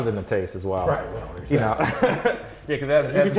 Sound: laughs

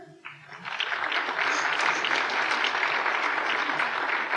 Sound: applause

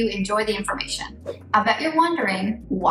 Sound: air whooshing

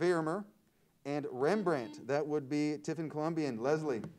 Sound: buzzer sounds

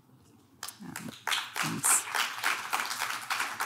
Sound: audience clap

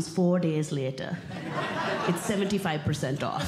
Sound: audience Laughing

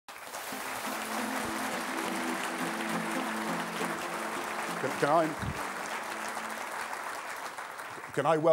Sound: applause

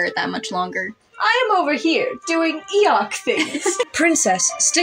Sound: laugh

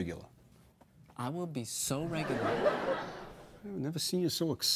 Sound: audience laughs

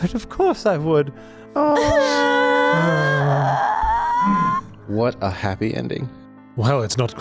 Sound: Dabarella Cries

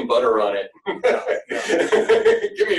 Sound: laughter

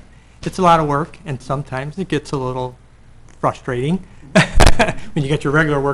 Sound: laughing

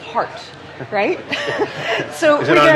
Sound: laughs

